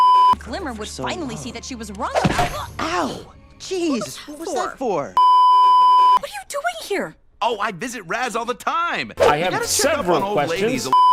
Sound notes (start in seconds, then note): 3.0 shocked gasp; 5.2 beeeeeep